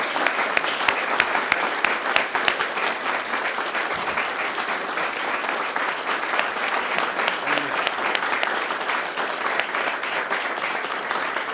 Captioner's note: applause